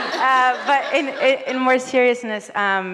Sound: audience laughs

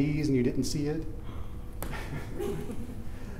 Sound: laughing

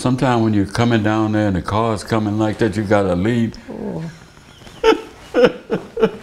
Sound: laughter

